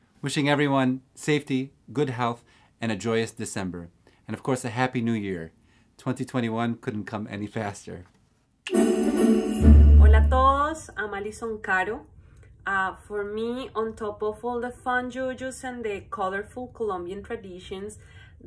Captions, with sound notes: Wishing everyone safety, good health, and a joyous December and, of course, a Happy New Year. 2021 couldn't come any faster. (festive music) (speaks in foreign language) - For me, on top of all the fun jujus and the colorful Colombian traditions,